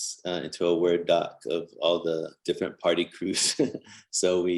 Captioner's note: chuckles